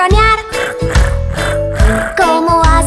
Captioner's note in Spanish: Ronroneo